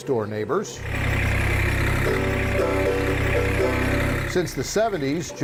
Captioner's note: tractor motor roaring